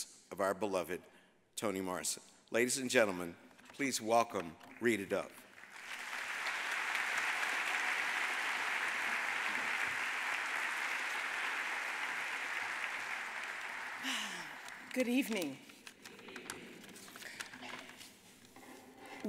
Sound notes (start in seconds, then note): 5.7 audience applauding; 14.0 sighs